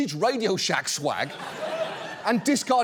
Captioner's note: studio audience laughs